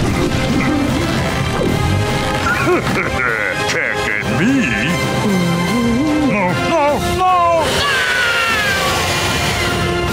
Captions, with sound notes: [laughing] Pick at me... -[humming] -No, no, no! [screaming]